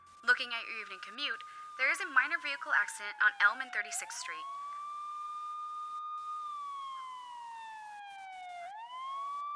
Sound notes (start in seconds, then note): 4.5 sirens whirring